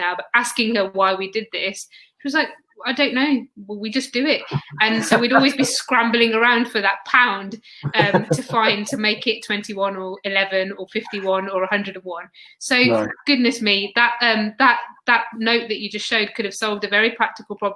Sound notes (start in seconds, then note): 0.0 erm; 7.5 erm; 15.5 erm